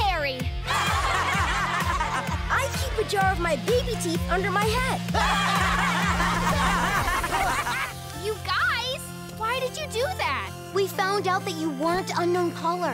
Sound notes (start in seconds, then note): 0.6 laughing; 5.1 laughing